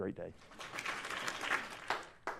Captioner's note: applause